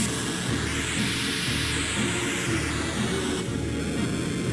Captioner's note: explosion booming